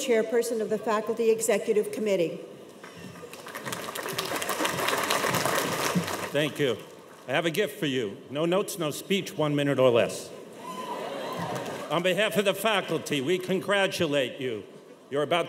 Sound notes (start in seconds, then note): 3.2 cheers and applause; 10.6 audience members cheer